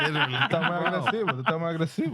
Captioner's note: speaking Spanish